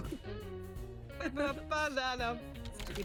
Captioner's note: happy weirdo hacking sounds; laughs